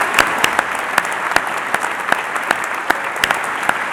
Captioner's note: applause